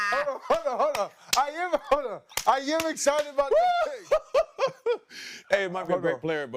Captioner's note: laughter